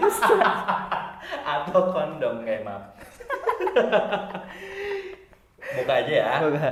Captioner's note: laughing